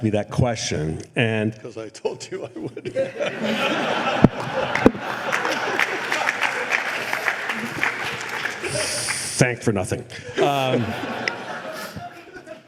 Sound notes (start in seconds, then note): 2.3 laughter; 6.4 applause